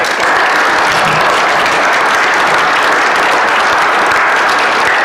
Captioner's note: applause